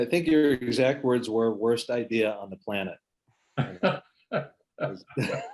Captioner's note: laughs